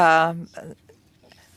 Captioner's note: speaking French